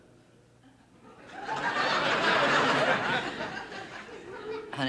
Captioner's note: audience laughing